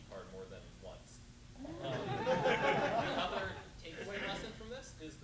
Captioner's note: laughter